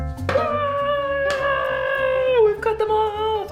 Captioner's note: yelling